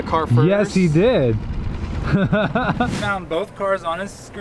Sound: laughs

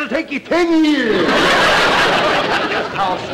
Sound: audience laughter

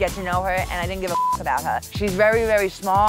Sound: beep

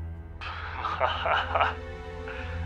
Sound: he laughs

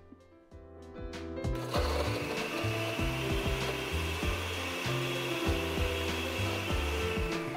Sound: blender grinding

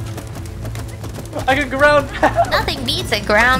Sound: laughing

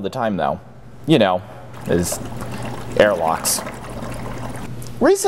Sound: bubbling

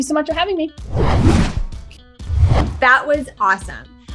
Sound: air whooshing; upbeat music

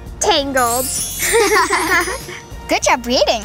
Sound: girls giggling

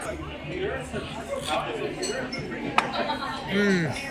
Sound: slurps

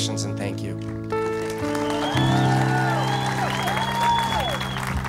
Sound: applause

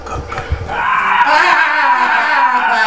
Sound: shrieks

